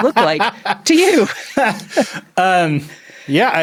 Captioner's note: both laughing